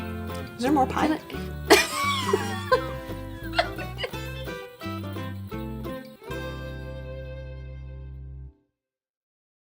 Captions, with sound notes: - Is there more pie? (Laughing) (cheerful guitar music)